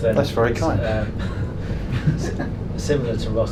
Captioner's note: laughs